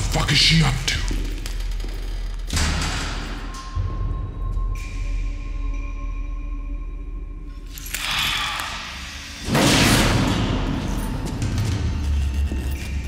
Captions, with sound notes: What the fuck is she up to? (breath)